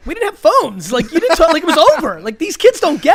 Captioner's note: laughs